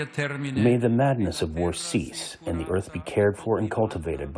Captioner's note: through translator